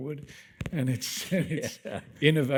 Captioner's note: both laughing